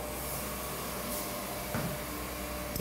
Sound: machine whirring

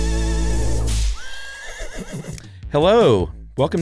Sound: horse neighs

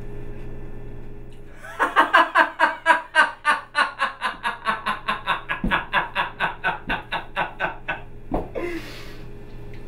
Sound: loud laughter

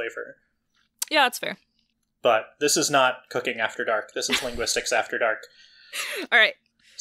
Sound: laughs

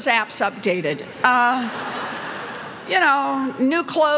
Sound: laughter

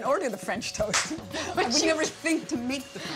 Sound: laughs and claps

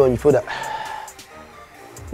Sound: exhales

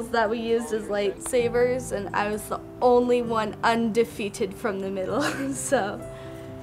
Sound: laughs

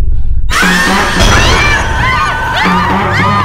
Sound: screams

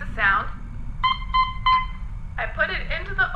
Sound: meep meep meep

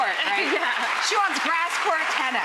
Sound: audience applauding

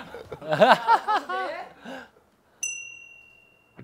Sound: laughing it off

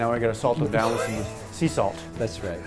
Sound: laughing

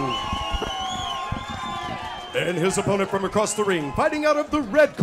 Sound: applause

